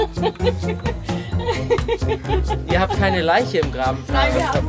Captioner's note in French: Rires